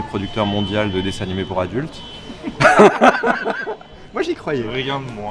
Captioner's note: giggles